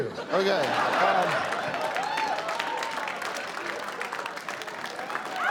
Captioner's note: scattered cheering, applause